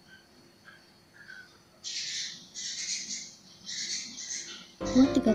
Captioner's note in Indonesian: suara kicau burung